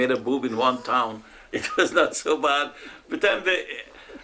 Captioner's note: laughs